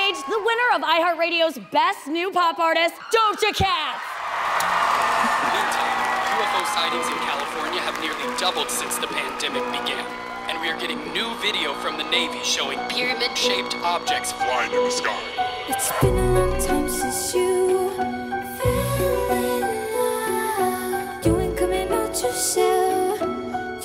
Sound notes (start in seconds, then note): 4.1 crowd cheering